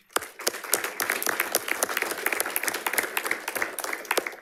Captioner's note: audience applauding